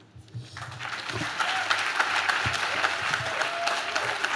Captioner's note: audience claps